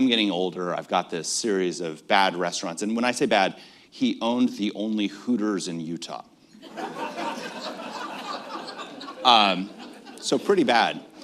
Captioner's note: laughter